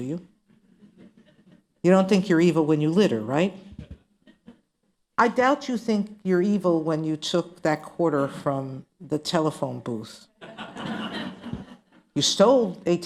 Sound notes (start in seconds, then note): 8.7 laughter